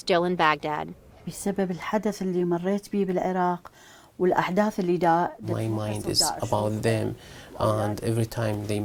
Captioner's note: through translator